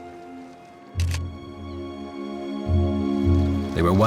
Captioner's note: camera clicks